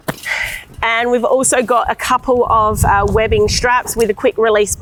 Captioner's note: sighs